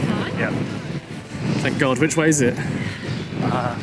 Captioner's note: sarcastically